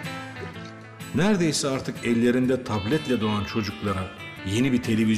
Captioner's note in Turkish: Ahmet dış ses